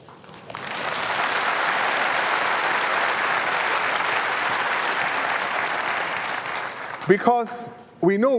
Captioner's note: applause